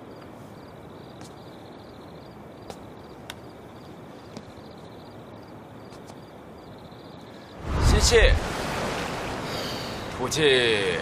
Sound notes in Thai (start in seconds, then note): 7.4 หายใจเข้า; 9.3 หายใจออก